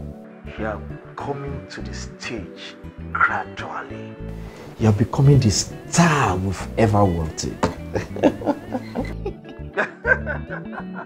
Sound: laughing

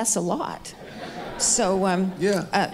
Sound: audience laughing

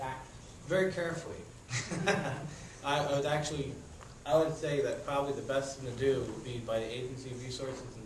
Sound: laughter

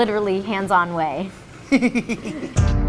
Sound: laughs

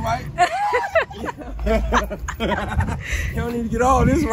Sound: people laughing

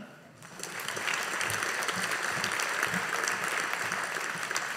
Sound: audience applauding

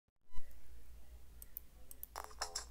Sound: my mouse clicking

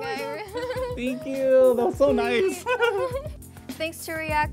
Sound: both laugh

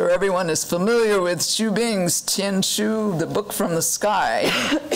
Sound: foreign language

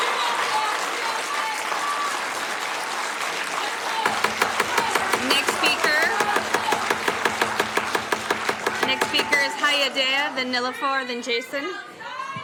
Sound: applauding

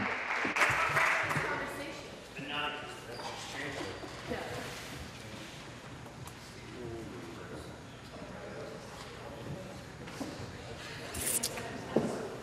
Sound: applause

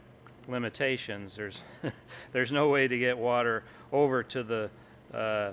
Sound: chuckles

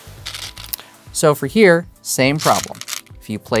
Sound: stones rattling; stones rattling

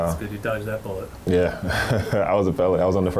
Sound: laughs

